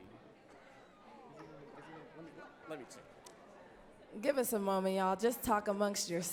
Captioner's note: indistinct chatting